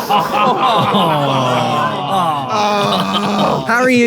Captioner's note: people in room laughing and groaning; KSI groans